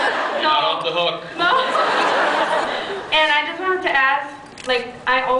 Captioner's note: laughs